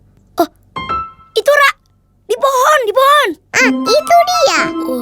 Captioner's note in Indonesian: none